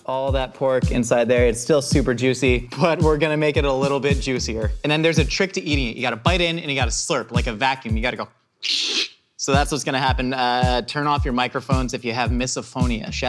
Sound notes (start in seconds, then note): 8.6 sucks in